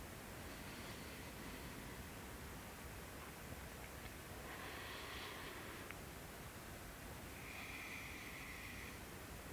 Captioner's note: inhales and exhales